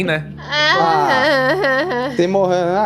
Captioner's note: Kalera grunts